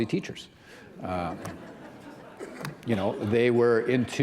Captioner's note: laughter